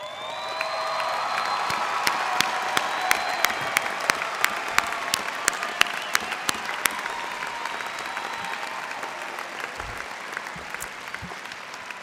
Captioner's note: cheers and applause